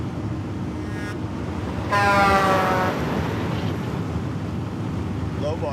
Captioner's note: truck horn blaring